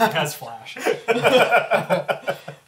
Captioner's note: all laugh